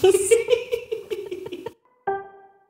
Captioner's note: chuckling; man chuckles; upbeat piano music